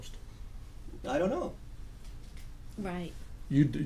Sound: voiceover

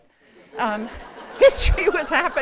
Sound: laughs

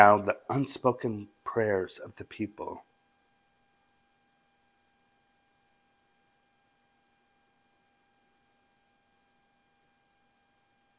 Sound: intentional silence

